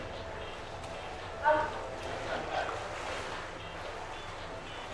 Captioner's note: water sloshing